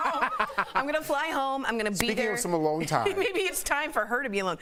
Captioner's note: distant laughing